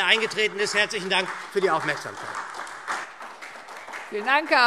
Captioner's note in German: Beifall SPD und DIE LINKE